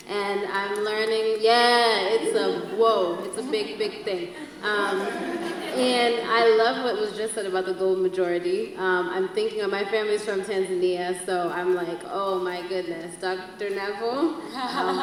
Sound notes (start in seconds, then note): 4.3 audience laughs